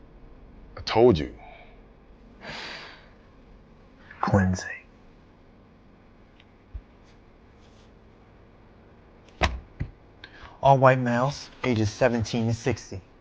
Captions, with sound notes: - I told you. - (sighs) Cleansing. (file slapping on table) All white males, ages 17 to 60.